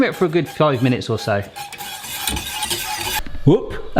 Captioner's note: whisking